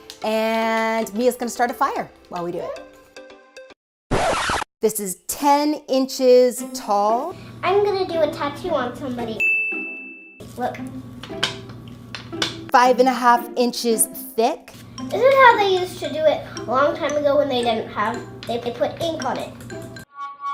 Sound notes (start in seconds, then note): 4.1 record scratching; 9.4 dinging; 19.7 flute music